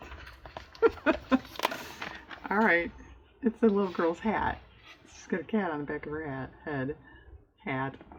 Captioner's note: laughs